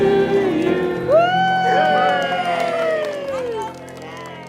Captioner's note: cheering